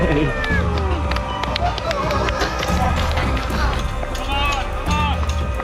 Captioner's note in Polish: Aplauz